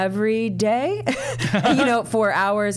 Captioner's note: laughing